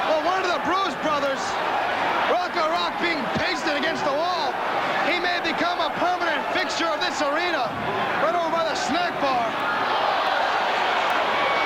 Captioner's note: crowd chatter